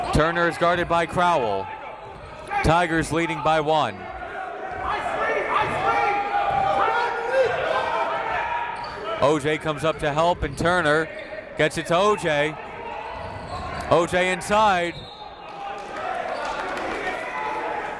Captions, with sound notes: Turner is guarded by Crowell, Tigers leading by one. OJ comes up to help and Turner, gets it to OJ, OJ inside. (whistle)